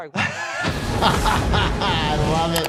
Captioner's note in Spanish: doctor riendo